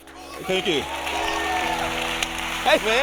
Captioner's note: audience cheering